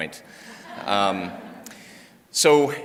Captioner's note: audience laughs